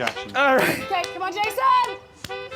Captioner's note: blows whistle